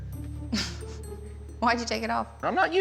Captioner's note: chuckles